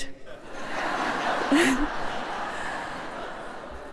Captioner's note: laughter